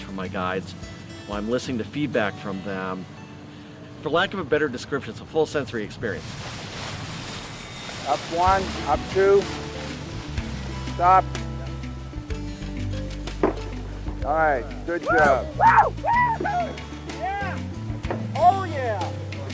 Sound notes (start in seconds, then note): 13.5 pistol pops; 15.4 cheering